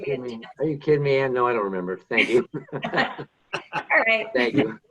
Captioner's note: laughs